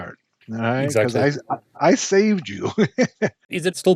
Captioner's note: chuckling